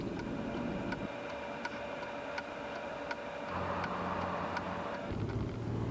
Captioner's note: blinker clicking